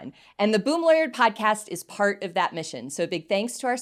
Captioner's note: none